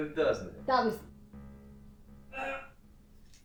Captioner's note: man growls